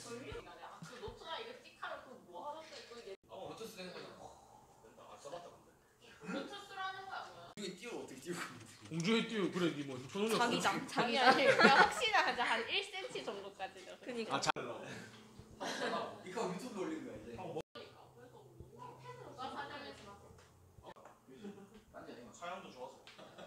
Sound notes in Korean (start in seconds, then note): 10.4 웃음